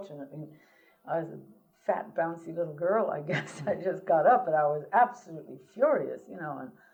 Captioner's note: laughter